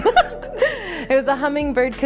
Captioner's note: both laughing